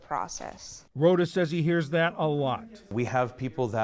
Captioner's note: voice-over